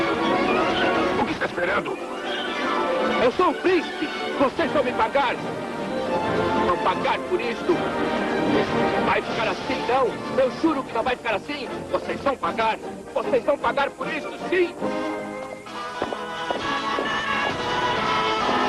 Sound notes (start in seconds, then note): 12.0 shouting